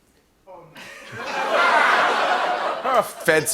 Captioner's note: laughter